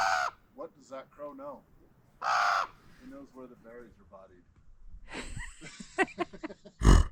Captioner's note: bear grunt